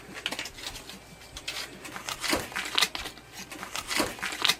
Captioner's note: money rustling